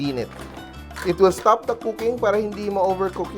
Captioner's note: clatters